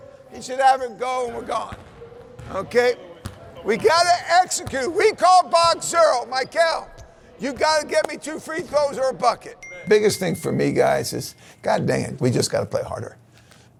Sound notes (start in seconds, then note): 9.6 phone dings